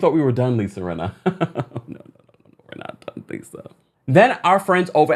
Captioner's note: chuckles